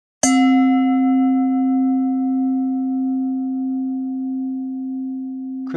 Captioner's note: bell chimes